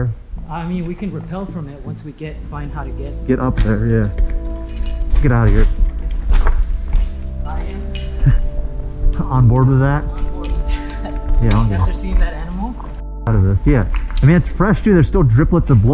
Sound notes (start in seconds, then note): 4.7 scraping and shuffling; 11.1 chuckles; 13.1 beep